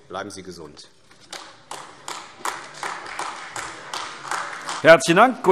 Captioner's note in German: Beifall AfD